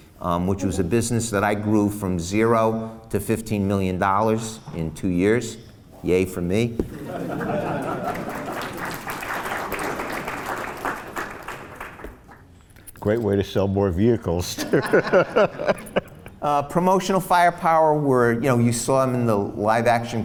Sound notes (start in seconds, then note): 7.0 laughs and applause; 14.6 laughs